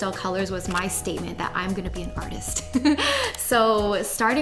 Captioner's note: giggles